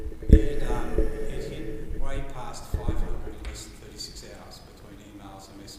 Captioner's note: static